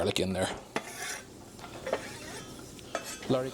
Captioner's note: sizzling